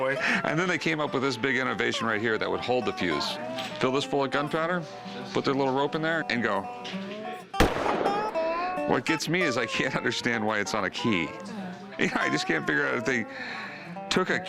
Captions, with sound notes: And then, this big innovation right here that would hold the fuse. Fill this full of gunpowder, put that little rope in there, and go... [gunshot] What gets me is, I can't understand why it's on a key. You know, I just can't figure out if they took a key